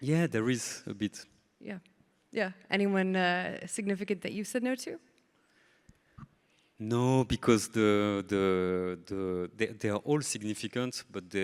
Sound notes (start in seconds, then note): none